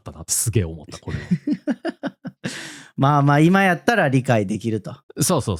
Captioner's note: laughs